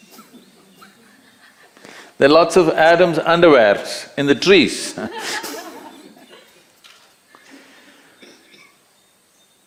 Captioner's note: laughs; laughter